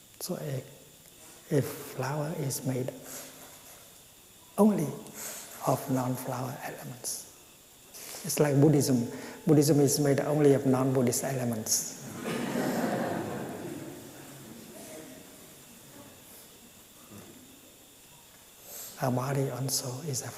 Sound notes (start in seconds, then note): 12.0 laughter